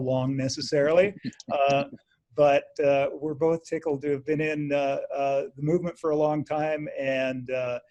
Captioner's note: chuckles